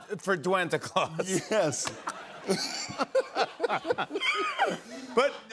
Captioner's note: laughter